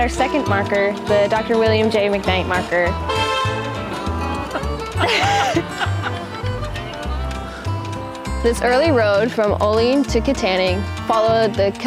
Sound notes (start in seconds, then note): 3.0 loud car horn